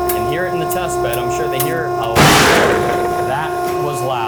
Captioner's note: sling pops